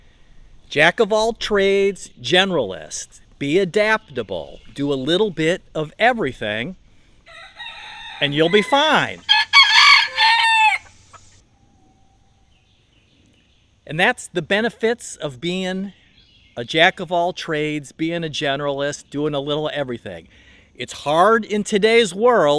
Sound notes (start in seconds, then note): 7.2 rooster loud crowing